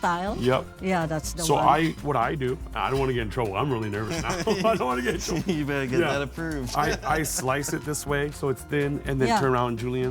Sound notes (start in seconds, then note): 4.0 laughs